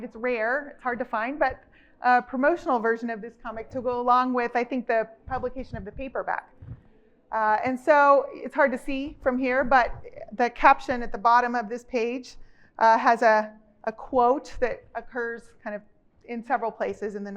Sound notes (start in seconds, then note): none